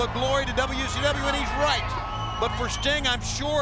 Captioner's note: crowd clamoring